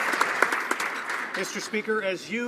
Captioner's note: applause